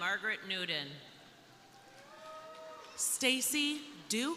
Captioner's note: crowd cheering